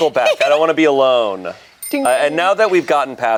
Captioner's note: laughs; bell dings